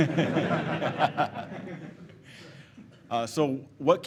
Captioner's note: laughing